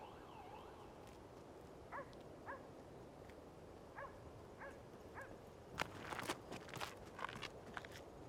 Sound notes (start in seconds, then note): 2.0 dogs barking